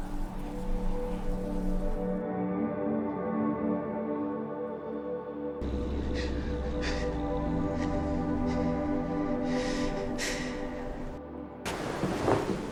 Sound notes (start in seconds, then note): 5.6 wolf growls